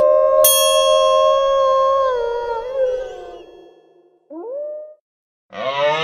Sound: bell dings; wolves howling; animal bellowing

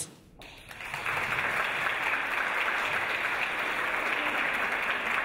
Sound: audience applause

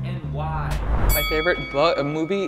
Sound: bell dings

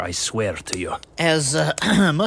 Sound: clears his throat

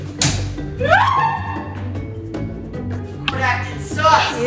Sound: shouting

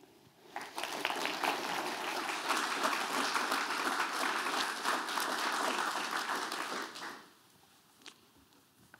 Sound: applause

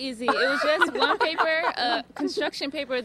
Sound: laughter

